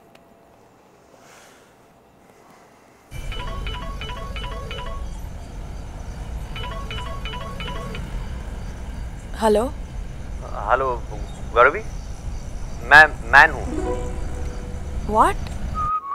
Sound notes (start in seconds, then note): 1.1 Inhales sharply; 3.2 Phone ringing